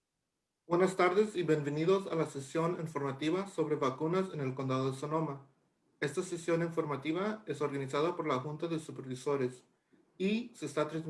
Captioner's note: Spanish